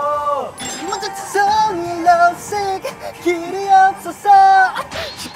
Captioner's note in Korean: 다른 차임